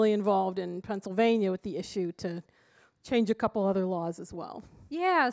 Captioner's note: none